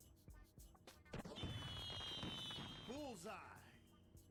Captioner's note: fireworks popping